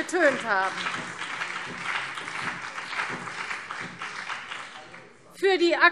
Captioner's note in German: Beifall